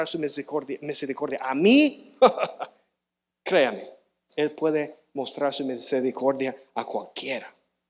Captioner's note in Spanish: risas